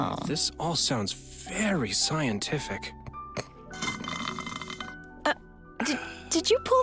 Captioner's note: slurps milk tea